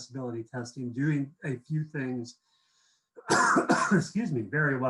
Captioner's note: coughs